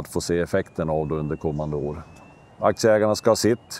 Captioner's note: industrial vehicles operating